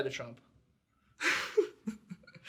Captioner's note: laughs